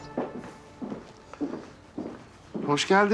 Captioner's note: birds are tweeting